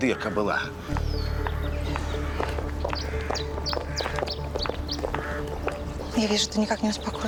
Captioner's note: street noises